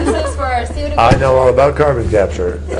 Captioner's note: laughter